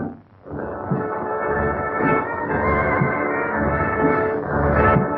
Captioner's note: thunder